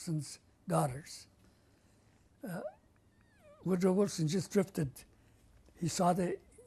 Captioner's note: pauses for 3 seconds